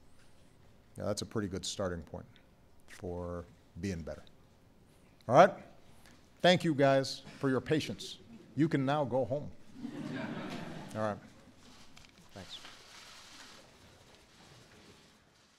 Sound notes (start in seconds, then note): 9.7 laughter